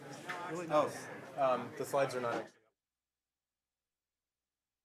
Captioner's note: chatter